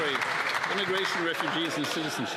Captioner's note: some Applause